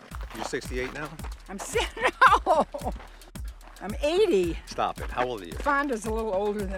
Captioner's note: laughing